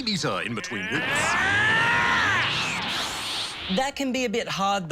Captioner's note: shouts